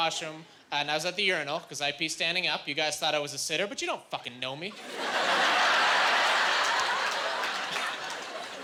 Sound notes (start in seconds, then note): 4.9 laughing